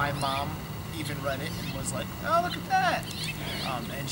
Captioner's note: chuckles